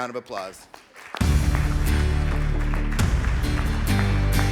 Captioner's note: audience clapping